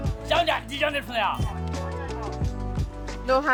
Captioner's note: speaking Chinese